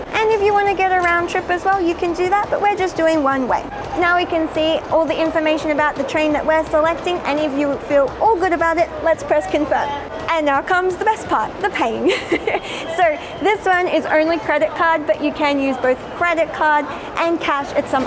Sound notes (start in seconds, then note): 12.0 laughing